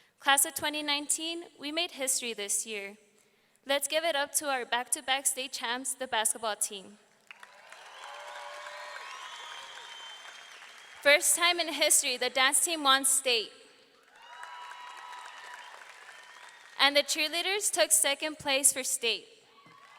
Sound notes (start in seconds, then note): 7.2 audience clapping; 7.3 audience cheering; 14.0 audience clapping; 14.0 audience cheering